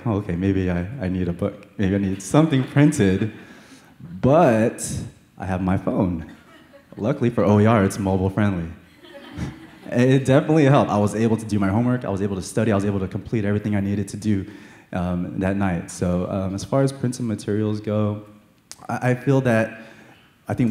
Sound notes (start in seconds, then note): 8.9 laughter